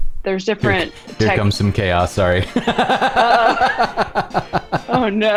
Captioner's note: laughter